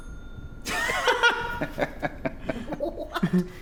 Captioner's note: everybody laughs